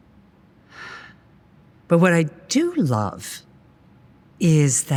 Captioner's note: sighing